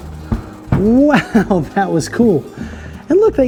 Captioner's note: laughs